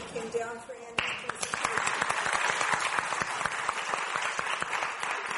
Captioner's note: audience applauding